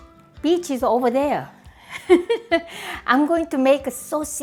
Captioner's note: laughs